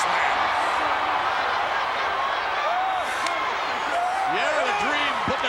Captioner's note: audience cheering